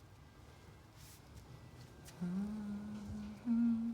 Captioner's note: continues humming